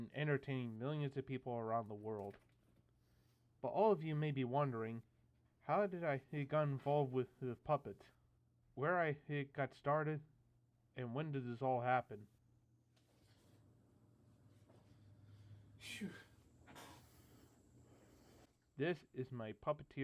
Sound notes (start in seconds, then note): 15.7 phew